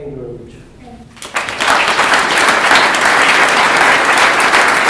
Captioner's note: applause